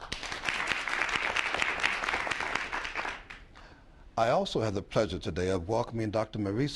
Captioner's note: applause